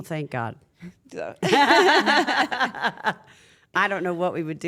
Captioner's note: laugh